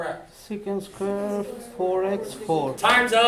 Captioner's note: students mumbling answers